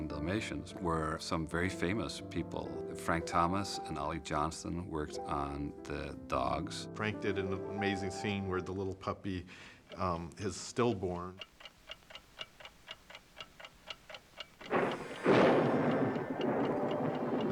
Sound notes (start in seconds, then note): 12.3 clock ticking; 14.4 thunderclap